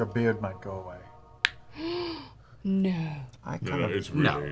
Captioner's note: gasps